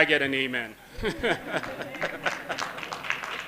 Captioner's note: laughter and applause